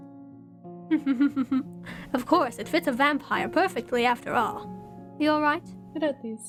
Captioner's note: chuckles